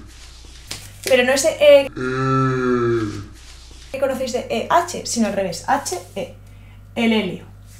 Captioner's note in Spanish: Ehhhh